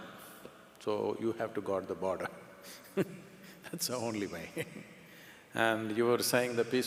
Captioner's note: laughs